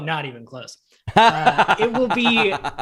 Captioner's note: laughter